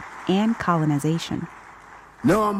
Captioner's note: audience applauding